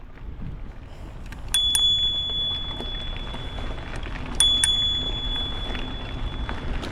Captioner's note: rings bell several times